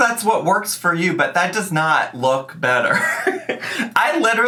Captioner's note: laughs